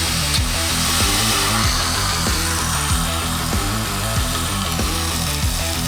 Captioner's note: water Running